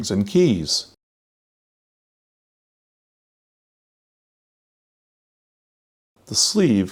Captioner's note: silence